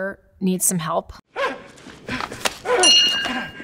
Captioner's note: hyperventilates; bell dings